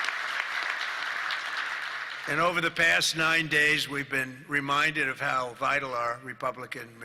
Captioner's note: applause